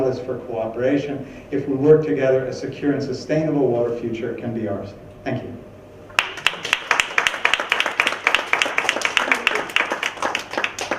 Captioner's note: clapping